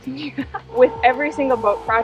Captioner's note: laughs